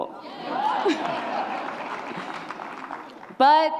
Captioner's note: cheers and laughter